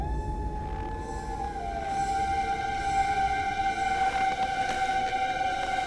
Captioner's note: ominous orchestral music; wolf howling